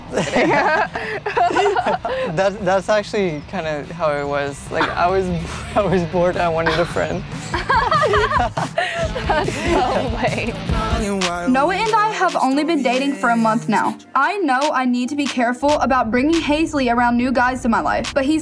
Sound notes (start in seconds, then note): 0.0 both laughing; 6.6 laughs